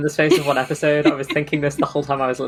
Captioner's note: laughs